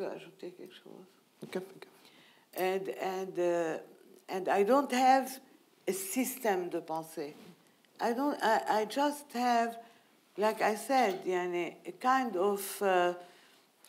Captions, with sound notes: (speaking in foreign language) And I don't have a system (speaking in foreign language.) I just have, like I said, kind of antenna,